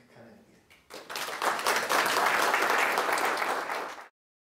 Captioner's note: applause